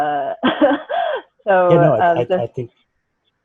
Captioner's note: laughing